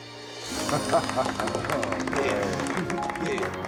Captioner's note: all applauding